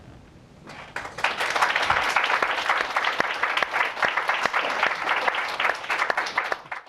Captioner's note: applause